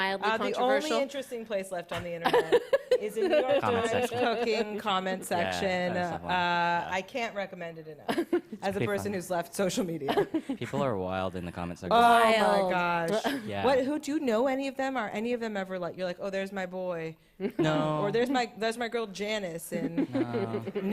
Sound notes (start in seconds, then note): 2.2 laughs; 8.1 chuckles; 10.1 chuckles; 17.4 chuckles; 19.8 chuckles